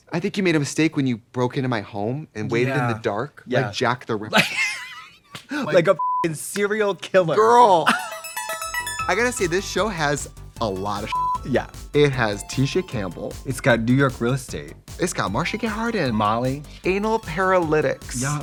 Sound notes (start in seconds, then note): 4.3 Katya laughs; 6.0 beep; 7.9 musical flourish; 11.1 beep